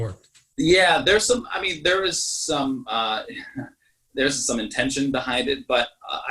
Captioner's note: laughs